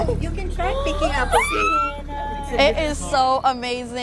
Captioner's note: squeals